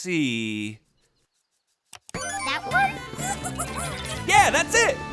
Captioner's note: spiders giggling